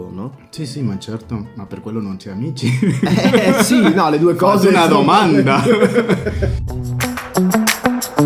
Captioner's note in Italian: risate